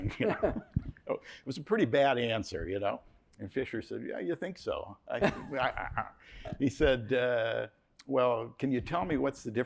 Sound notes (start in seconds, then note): 5.2 laughs